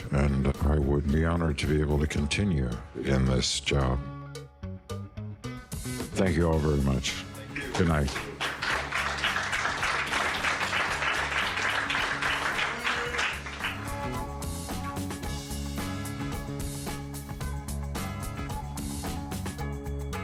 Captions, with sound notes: and I would be honored to be able to continue in this job. Thank you all very much. Good night. (audience appluading) (upbeat music)